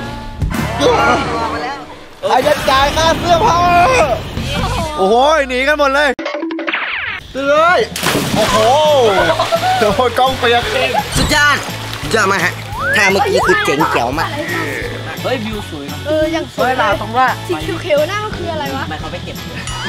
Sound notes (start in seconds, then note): 8.1 water splashed; 9.1 chuckles